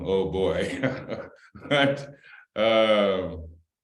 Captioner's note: laughter